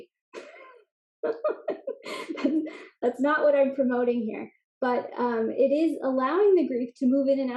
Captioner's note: laugh